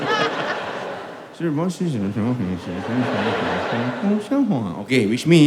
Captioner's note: chinese Gibberish